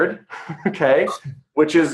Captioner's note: laughing